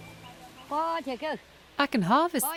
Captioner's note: speaking in foreign language